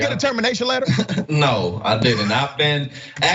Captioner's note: laugh